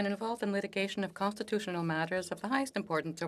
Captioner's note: speaking French